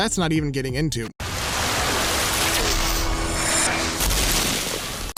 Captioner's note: splashing